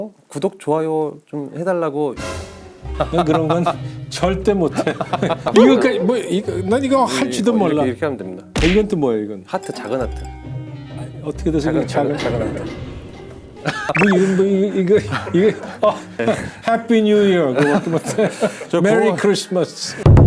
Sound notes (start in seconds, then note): 12.2 shocked